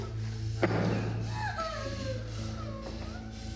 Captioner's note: bottle thudding